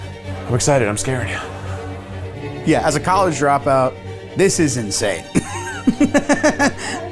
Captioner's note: laughs